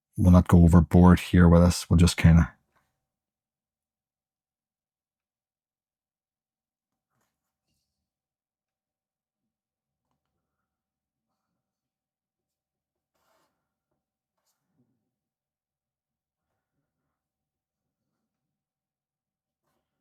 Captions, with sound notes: We'll not go overboard here with this. We'll just kind of... [Silence]